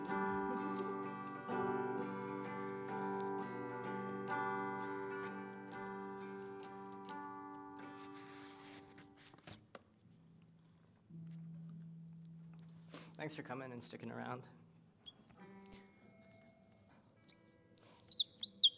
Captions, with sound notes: Thanks for coming and sticking around. [BIRDS CHIRPING, SINGING]